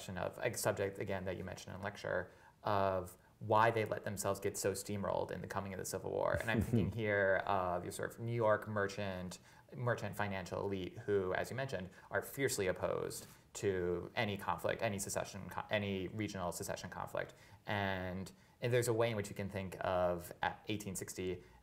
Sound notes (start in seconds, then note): 6.4 laughs